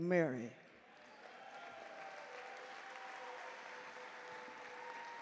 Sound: audience cheer and clap

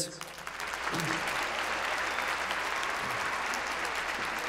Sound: applause

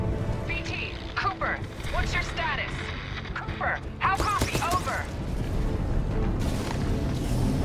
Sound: radio

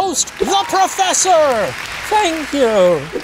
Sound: audience applauding

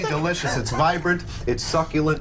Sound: laughter

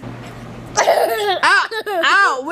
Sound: laughs

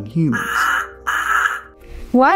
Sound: Leo caws

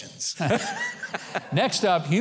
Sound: laughing

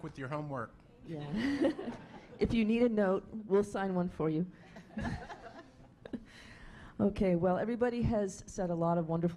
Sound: laughing

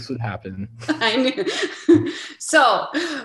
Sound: chuckles

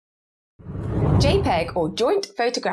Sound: screen whooshes

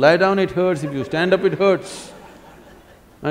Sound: laughter

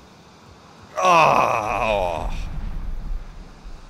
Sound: sighs

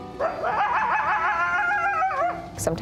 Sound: howling

